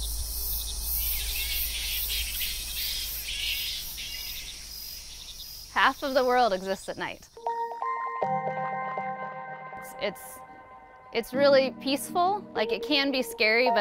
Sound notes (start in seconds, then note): 0.1 bats screeching; 7.4 calming music